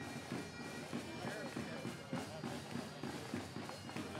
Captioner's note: none